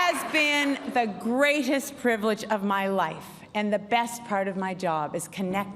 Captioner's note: cheers and applause